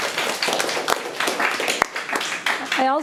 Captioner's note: audience applauding